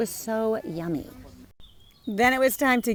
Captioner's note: birds chirping